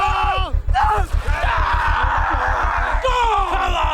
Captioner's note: Bodil shouting